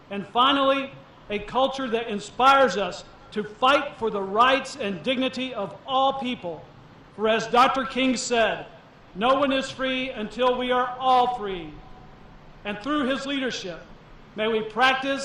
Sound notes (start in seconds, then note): none